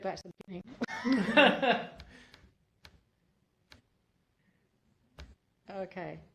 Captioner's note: laughter